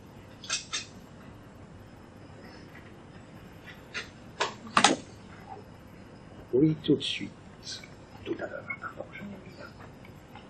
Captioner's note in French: chuchoté